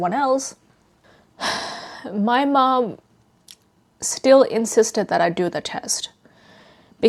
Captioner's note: sighs